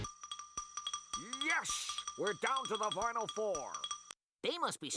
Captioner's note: imitating Marv Albert